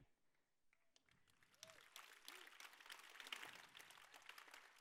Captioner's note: applause